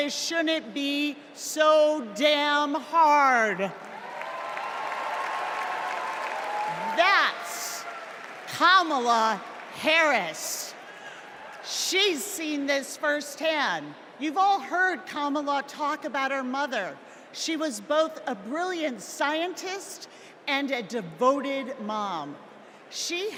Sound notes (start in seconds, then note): 6.2 applause